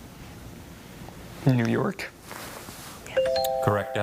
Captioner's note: tone chimes